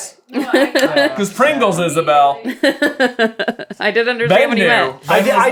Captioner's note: laughing